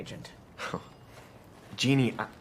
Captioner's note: laughs